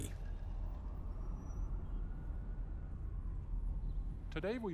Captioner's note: siren wails; traffic hums